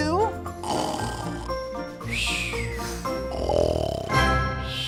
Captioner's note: softly snoring